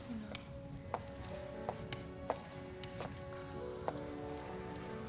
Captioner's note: footstep